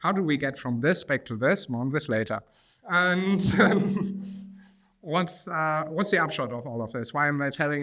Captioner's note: chuckles